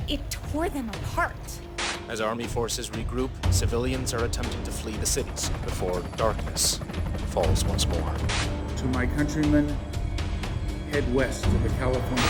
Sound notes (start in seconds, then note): 7.8 helicopter whirring